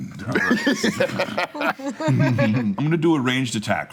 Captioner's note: laughing